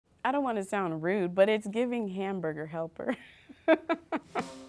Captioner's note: laughs